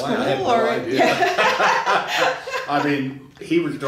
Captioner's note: laughing